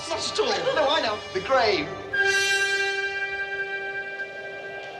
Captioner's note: wind blows